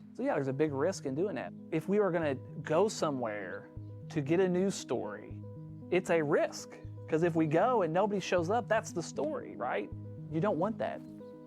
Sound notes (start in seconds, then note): none